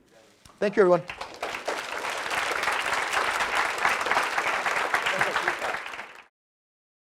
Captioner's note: applause